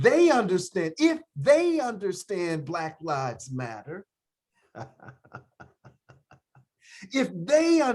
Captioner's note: chuckles